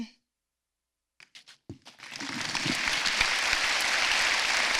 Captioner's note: applause